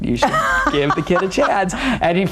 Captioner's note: laughs